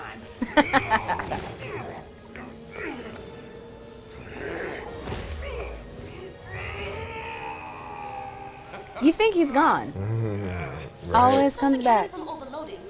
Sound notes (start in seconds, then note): 0.0 laughs; 4.0 growls; 6.1 screaming